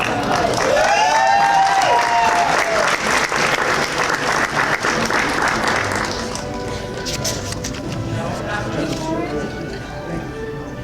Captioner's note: cheers and Applause